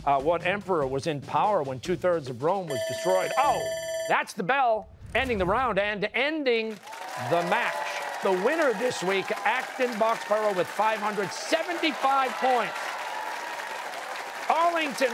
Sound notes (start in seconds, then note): 2.7 bell ringing; 13.2 cheers and applause